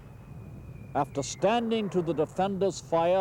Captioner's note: mortar fire booming